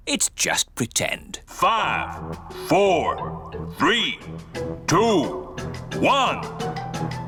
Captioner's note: on speakers